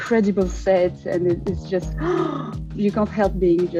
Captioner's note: gasps